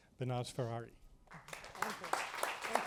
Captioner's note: applause